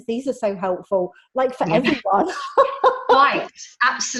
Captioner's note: laughs